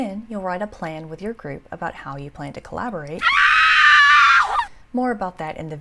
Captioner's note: scream